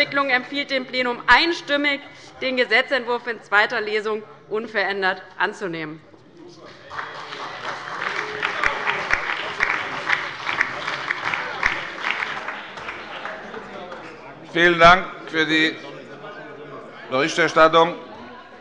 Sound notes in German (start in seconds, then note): 6.8 Allgemeiner Beifall